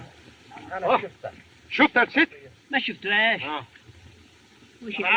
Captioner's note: foreign Language